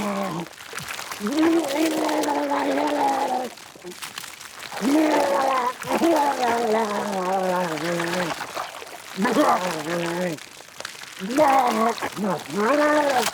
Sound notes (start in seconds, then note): 4.6 Walter retching continues